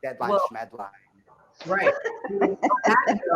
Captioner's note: laughter